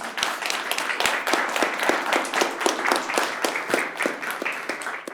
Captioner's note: audience applauds